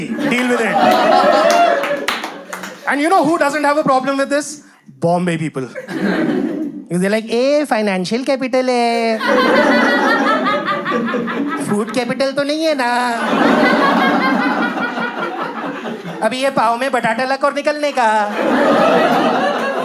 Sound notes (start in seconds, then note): 8.7 Mumbai accent